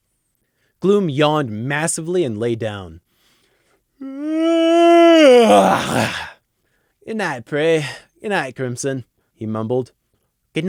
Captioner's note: wauuuuuugh